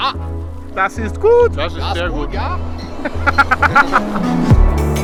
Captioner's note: they speak in German and laugh; upbeat music